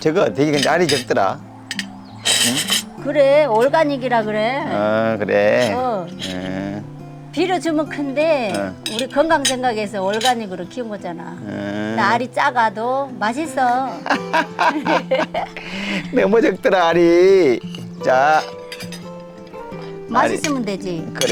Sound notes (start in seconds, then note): 13.7 both laughing